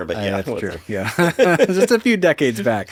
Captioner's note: laughing